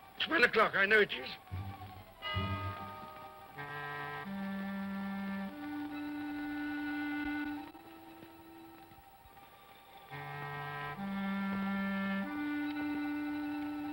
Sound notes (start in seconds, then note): 2.2 clock chimes; 3.5 tense ominous music